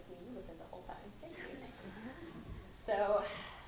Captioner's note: voiceover